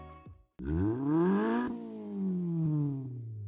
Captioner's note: engine revs